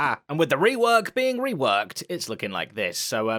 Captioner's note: none